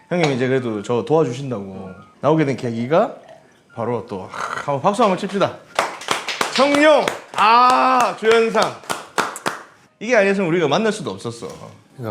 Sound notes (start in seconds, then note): 5.7 clap clap clap